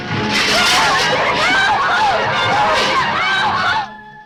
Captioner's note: passengers shouting